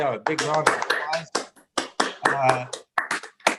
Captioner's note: applauds